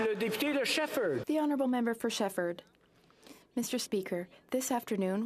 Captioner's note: some Applause